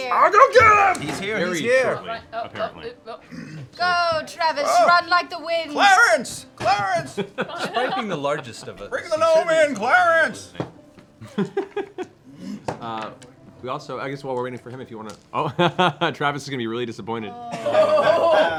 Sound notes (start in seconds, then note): 13.8 laughs